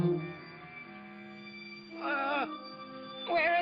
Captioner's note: groaning in pain